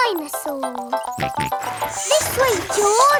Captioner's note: george snorts